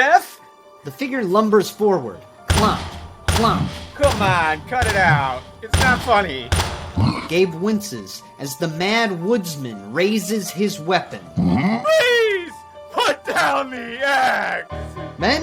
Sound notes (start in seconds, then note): 2.5 footsteps thudding